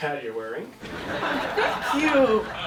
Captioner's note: audience laughing